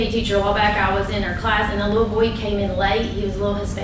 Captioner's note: none